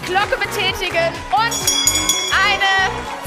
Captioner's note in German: Glocke läutet